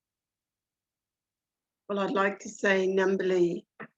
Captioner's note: speaking foreign language